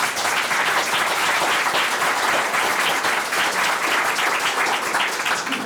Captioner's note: board members clapping